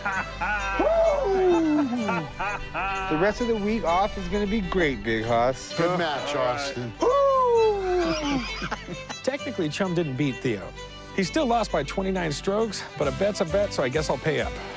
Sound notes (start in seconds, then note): 7.9 laughter